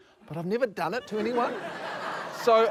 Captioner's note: laughter